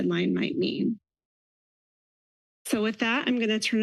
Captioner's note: pause